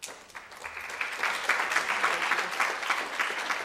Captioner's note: applause